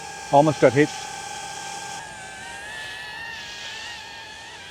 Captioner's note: drone whirring